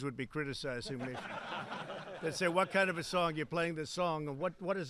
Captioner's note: laughter